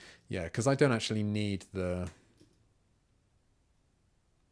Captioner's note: silence